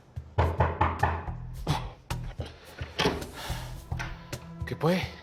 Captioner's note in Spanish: Toques en la puerta